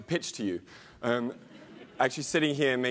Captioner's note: laugh